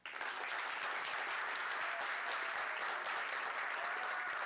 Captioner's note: audience clapping